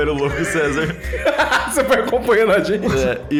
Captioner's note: laughing